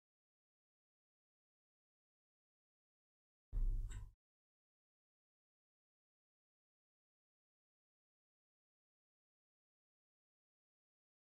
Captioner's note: blank Audio